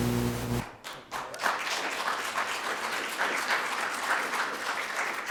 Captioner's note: audience applauding